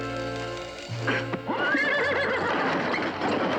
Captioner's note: neighing